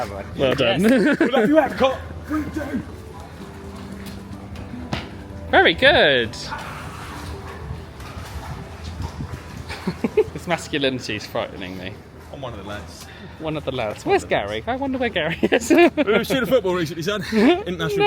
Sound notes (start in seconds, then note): 9.7 laughs; 15.4 laughs